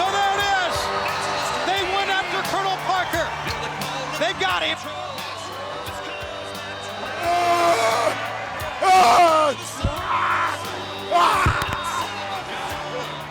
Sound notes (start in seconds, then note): 6.7 group screaming; 7.6 cheerful music